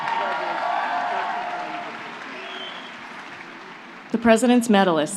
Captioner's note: applause